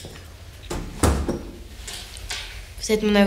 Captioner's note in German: Die Tür schließt